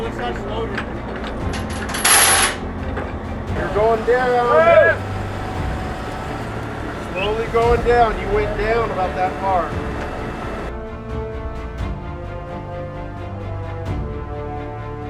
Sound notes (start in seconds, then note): 1.1 chains rattling; 3.6 people shouting; 11.2 exciting orchestral music